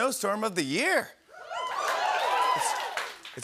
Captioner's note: cheers and applause